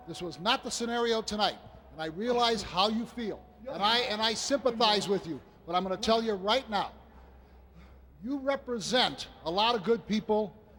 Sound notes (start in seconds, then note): none